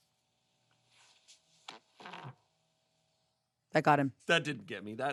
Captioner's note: recording farts